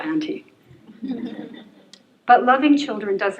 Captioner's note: laughter